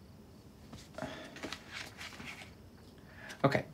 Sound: Tyler sighs

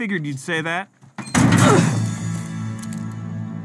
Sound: groans

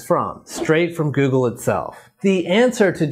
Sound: logo whooshes

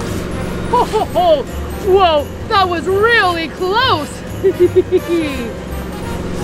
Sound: giggles

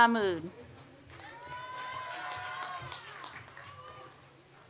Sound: audience applauds

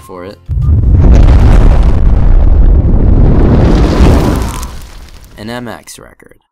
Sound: explosion

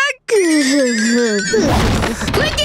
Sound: thudding

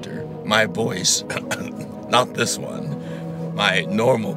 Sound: coughs

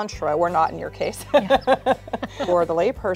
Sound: laughs

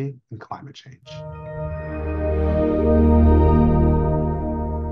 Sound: background tone

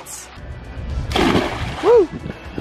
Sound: splashing

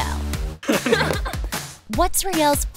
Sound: laughter

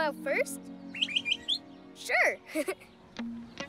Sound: chirps; chuckles

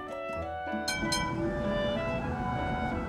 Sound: tram bell dings

